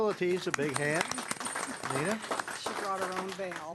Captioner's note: clapping